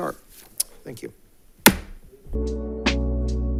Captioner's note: gavel thuds; gentle music